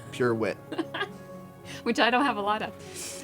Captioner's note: laugh